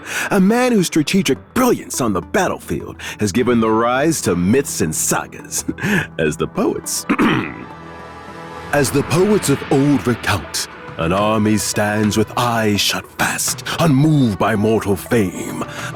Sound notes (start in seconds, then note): 7.0 cough